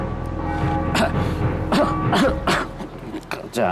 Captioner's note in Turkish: Öksürme sesi